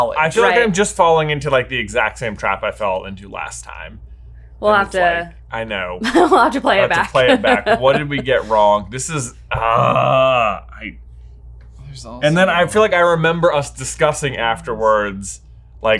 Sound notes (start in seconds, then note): 6.1 laughs; 9.4 groans